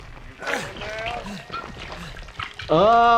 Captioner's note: liquid splashing